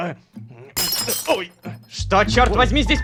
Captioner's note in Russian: Звук разбитой вазы